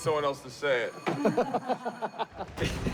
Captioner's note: all laughing